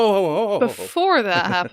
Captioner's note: laughs